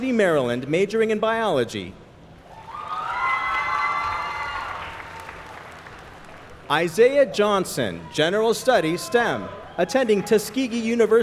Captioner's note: applause